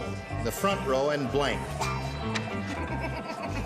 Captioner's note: giggles